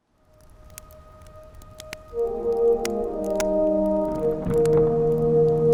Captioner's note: fire crackling; gentle pensive music